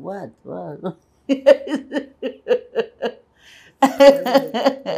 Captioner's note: laughing